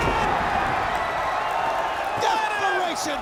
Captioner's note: crowd cheering